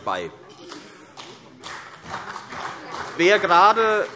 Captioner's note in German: Beifall